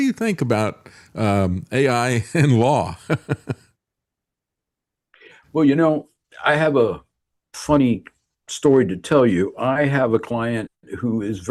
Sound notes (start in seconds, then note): 3.0 laughing